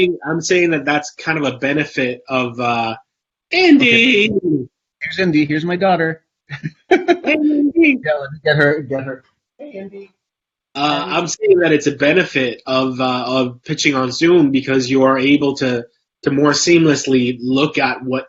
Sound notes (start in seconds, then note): 0.0 mic warbles; 6.5 both laugh